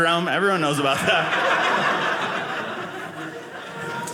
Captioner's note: audience laughing